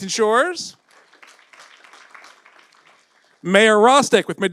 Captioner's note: audience applauds